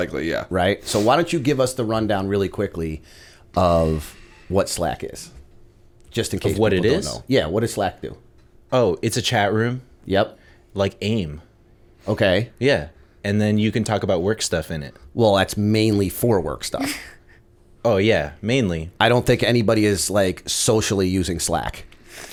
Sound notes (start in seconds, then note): 16.8 chuckle